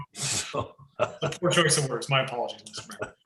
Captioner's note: laughs